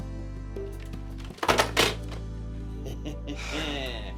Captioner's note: pleasant groovy music; phones thud; Jewels laughs